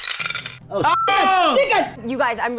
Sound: group shouts and exclaims

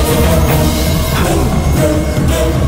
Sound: gasps

